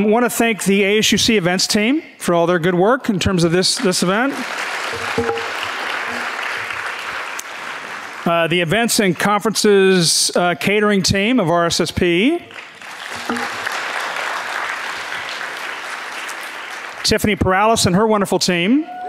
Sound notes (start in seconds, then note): 3.7 audience clapping; 12.4 audience clapping; 18.9 audience cheering and clapping